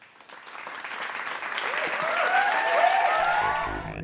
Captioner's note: applause